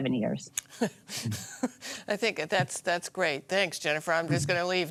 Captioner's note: laughter